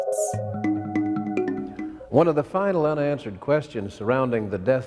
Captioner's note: intriguing music; lady whispering "secrets"